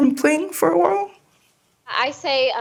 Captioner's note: soundbite of archived recording